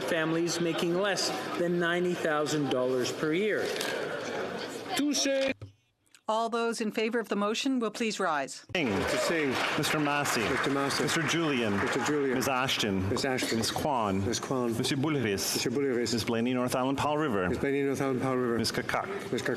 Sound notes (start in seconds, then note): 9.1 speaking French